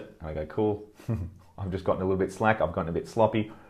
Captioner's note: chuckles